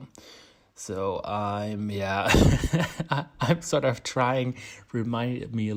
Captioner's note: laughs